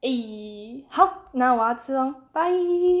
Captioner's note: speaking in a foreign language